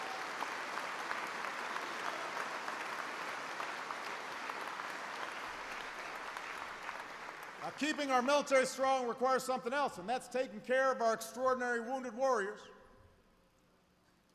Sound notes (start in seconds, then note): 2.6 applause